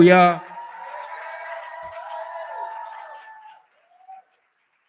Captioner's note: cheering